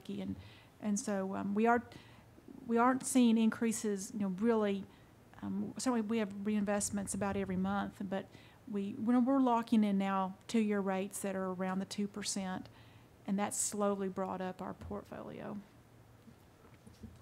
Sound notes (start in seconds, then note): none